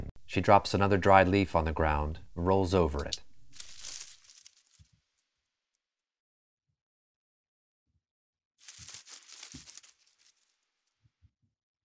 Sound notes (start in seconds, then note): 3.4 leaf crunching